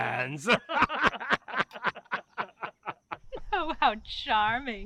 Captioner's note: laughter